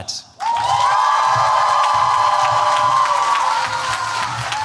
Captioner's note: cheering